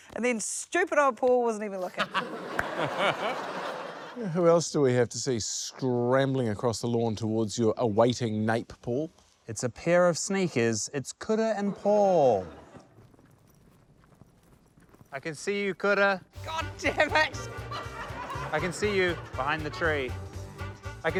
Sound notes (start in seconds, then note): 1.8 laughter; 16.8 chuckles